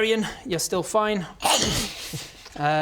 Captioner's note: nom